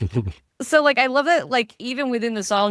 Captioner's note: laughing